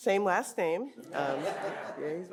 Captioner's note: audience laughing